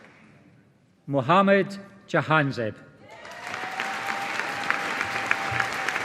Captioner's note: audience applauding